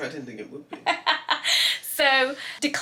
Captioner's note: loud laugh